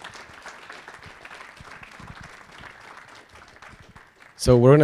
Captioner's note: audience applauding